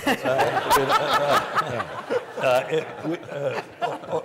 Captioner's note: panel laughs